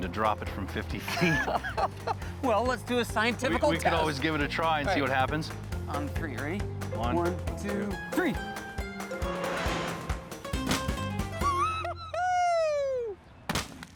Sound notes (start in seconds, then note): 1.1 laughs; 11.8 laughing